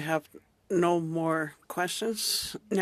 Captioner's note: speaking inuktitut